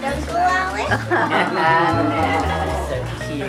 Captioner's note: chuckling